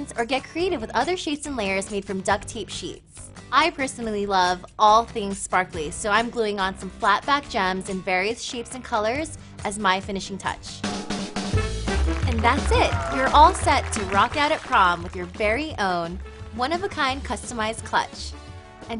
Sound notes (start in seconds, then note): 11.1 celebratory music; 11.6 clapping